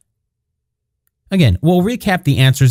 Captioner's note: pause